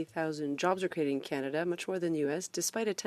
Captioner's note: speaking French